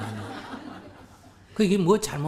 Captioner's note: audience Laughter